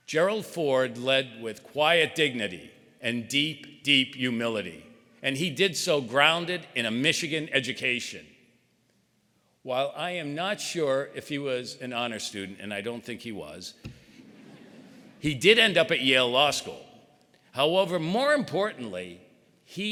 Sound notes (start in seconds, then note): 14.1 audience chuckling